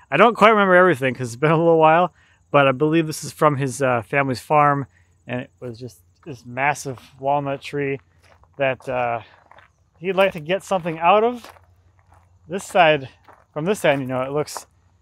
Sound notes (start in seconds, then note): none